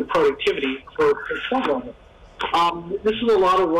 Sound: static interference with web-conference

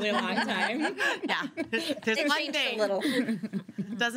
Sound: girls laughing

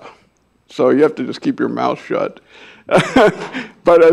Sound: laughs

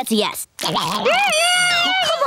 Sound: screaming

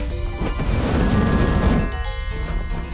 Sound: triumphant music; fire sizzles; triumphant music

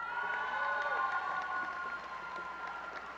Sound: applause and cheering

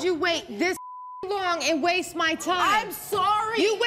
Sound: beep

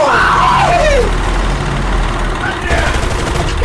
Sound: crew cheering

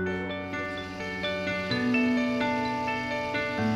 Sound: engine whirring

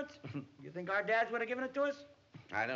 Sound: chuckles

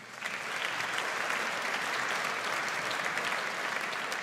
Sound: audience applauds

